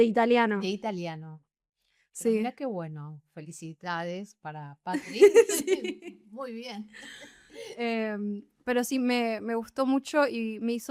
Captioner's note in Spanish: risas